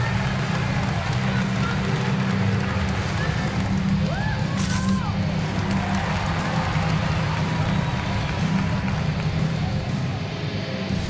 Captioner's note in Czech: Potlesk